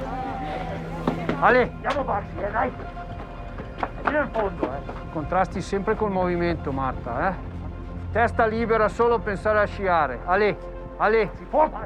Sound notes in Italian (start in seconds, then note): 1.5 parla in italiano